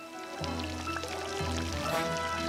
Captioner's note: fountain trickling